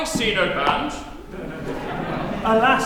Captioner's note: laughter